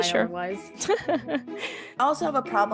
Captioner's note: laughs